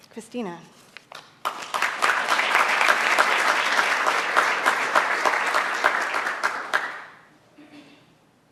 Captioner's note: applause; cough